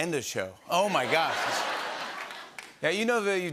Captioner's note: laughter